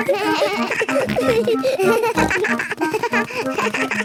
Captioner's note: giggles; snorts, bleating